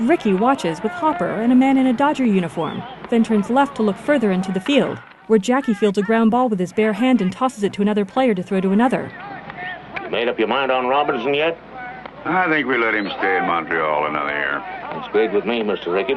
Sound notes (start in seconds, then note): 0.1 players shouting; 4.3 bat cracking